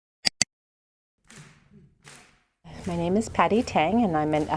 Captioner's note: sound of rhythmic clapping